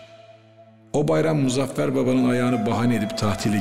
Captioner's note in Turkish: dış ses